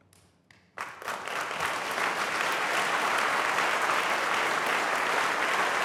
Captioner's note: applause